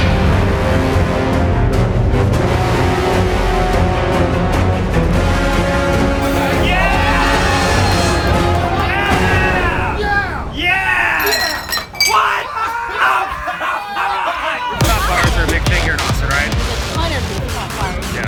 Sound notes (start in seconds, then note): 6.3 cheering; 11.1 glasses clinking; 12.0 cheering; 15.0 upbeat music